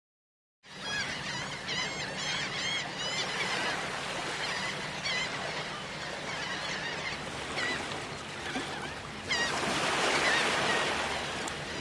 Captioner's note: seagulls Cawing